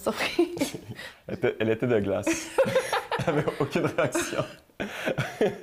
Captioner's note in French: rires